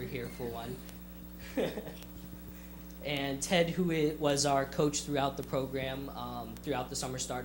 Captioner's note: chuckles